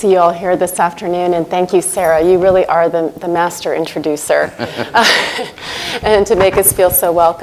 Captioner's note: laughter